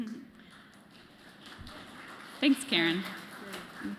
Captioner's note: applause